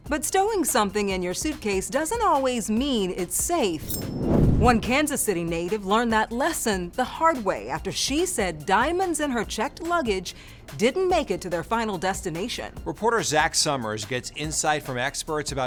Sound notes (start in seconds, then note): 3.6 swooshing